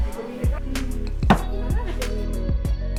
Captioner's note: stamp